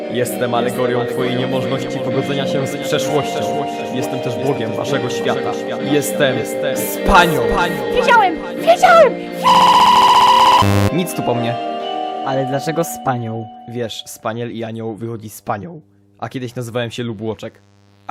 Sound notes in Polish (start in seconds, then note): 9.4 glitch